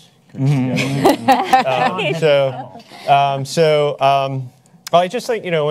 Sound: panelists laugh

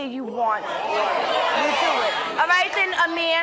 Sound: audience shouting

